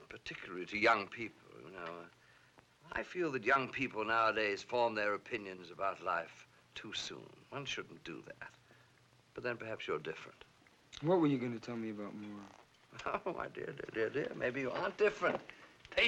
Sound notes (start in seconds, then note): 12.9 chuckles